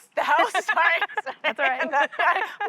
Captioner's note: laughter